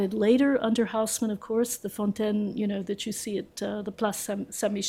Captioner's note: french